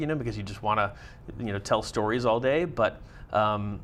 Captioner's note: none